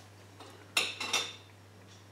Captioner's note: spoon clinks